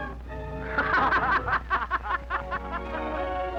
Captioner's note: laughter